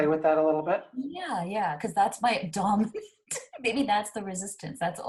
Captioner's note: laughs